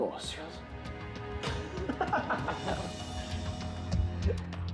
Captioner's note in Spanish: Risas